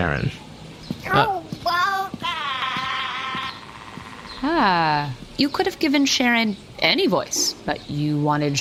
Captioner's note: glitching